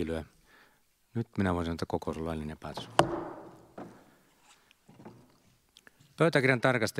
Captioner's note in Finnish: Nuijan kopautus